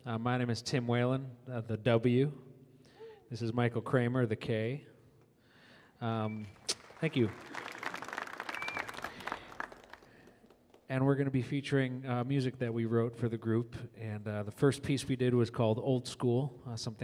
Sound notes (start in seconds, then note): 6.3 audience applauds